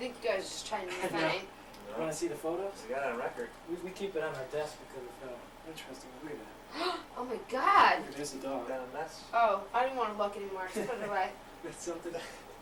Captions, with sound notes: I think you guys are just trying to be funny. Want to see the photos? We got it on record. We keep it on our desk because it's so interesting. [Gasps] Oh my God! There's the dog. Ah! I don't want to look anymore! Just put it away! That's something else.